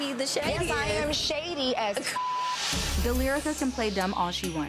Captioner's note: beep